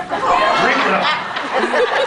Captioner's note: laughs